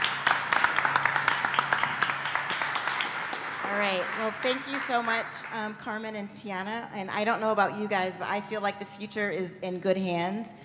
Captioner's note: clapping